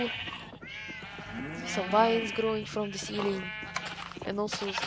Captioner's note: various loud animal noises